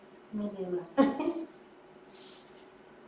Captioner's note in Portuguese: risos